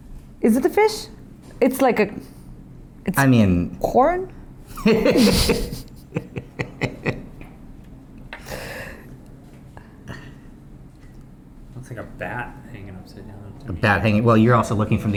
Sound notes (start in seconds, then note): 4.7 laughing